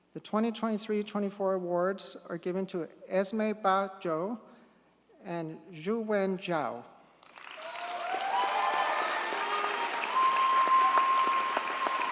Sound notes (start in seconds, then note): 7.2 audience cheers and applauds